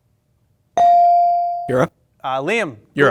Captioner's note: bell ring